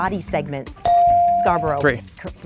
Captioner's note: bell dinging